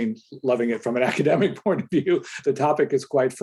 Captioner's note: chuckles